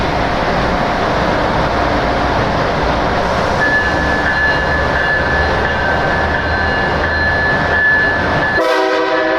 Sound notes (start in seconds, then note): 1.9 Acela Express E-bell ringing; 8.5 Acela Express horn